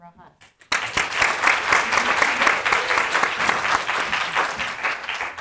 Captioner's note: audience applauding